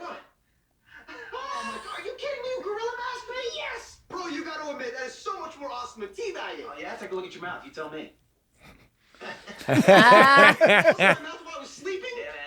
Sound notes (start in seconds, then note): 9.6 they laugh